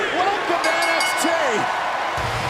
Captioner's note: bell ringing